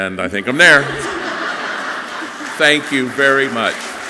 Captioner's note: audience laughing loudly